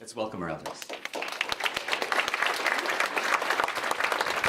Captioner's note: applause